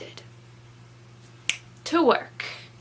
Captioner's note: snaps